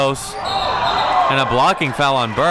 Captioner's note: whistle blows